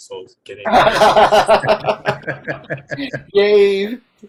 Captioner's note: laughing